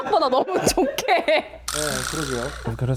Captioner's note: hahaha